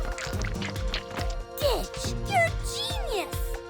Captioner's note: chittering